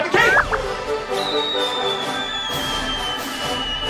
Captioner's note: dramatic music; boxes whirring